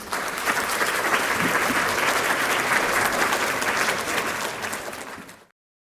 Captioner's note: applause